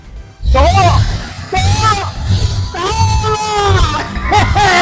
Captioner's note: engine starting sounds